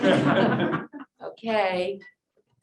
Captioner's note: laughter